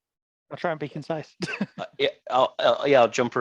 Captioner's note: laughs